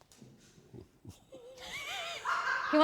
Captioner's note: laughs